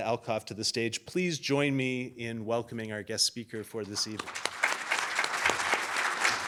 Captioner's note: applause